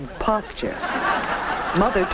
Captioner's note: audience laughs